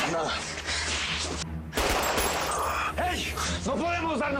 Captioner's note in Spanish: Disparos